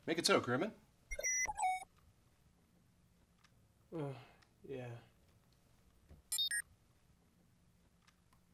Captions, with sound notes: Make it so, Crewman. *sighs* Yeah…